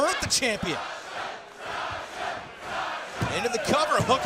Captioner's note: crowd cheering